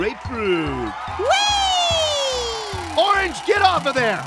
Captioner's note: Orange exclaims